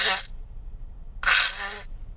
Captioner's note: snake hissing